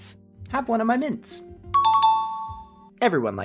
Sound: correct bell sound

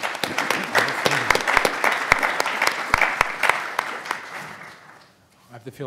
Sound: everyone applauds

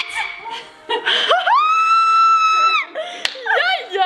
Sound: screaming

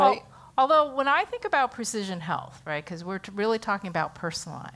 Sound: none

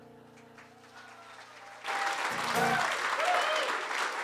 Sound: audience applauds

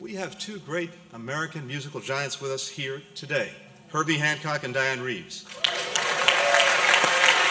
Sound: applause

